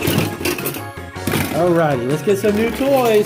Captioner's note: tools banging on table